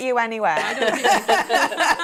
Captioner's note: laughing